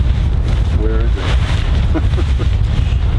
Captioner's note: laughing